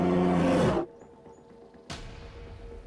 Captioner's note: growls